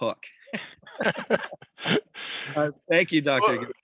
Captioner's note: laugh loudly